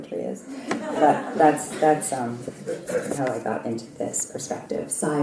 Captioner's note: laugh